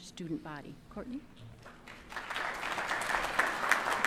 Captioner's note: applause